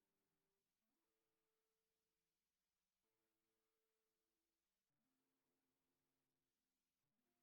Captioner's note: none